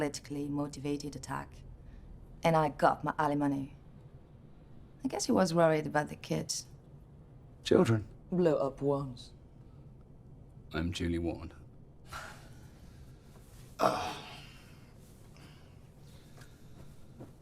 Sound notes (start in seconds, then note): 13.8 grunting